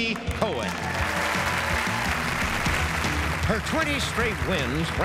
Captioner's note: audience applauds